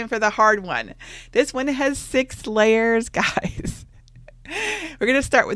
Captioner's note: laughs